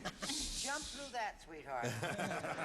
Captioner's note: laughs